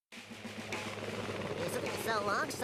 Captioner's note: whirring; laughing